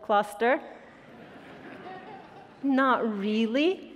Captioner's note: attendees laughing